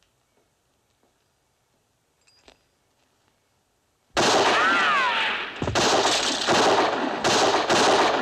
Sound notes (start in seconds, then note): 4.1 gunshots; 4.2 bullet ricochets; 4.2 gunshot